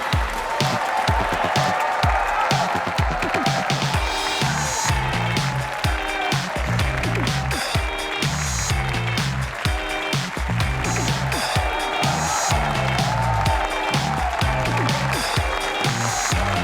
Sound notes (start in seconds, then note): 1.4 audience cheering; 1.4 energetic pop music; 11.5 audience applauding; 11.5 energetic pop music